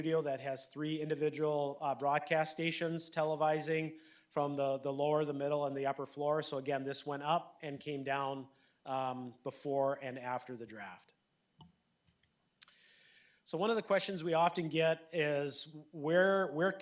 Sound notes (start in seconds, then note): none